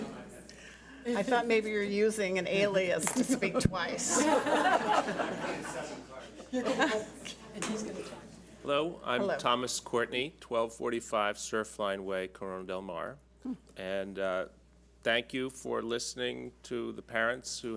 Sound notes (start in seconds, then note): 4.0 audience laughs